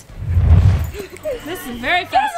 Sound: laughing

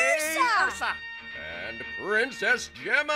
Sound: laughing

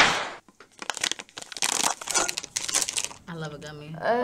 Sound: packaging crinkles

